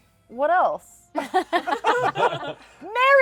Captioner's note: laughter